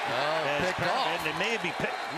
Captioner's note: crowd cheering